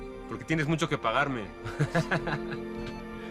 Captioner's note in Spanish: Ríe